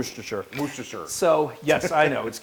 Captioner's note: laugh